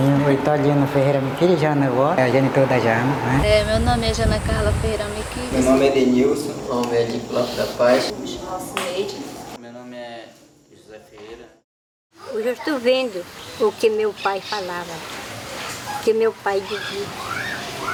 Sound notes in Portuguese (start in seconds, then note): 5.2 vento; 13.0 pássaros cantando; 16.6 vozes de crianças